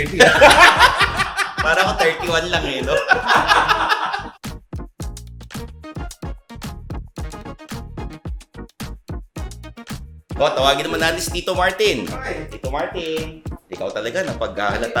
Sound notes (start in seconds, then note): 0.0 both laughing; 3.0 both continue laughing